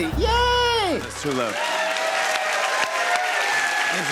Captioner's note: applause